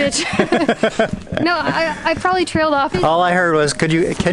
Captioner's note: laughter